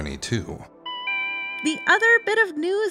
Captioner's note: store bell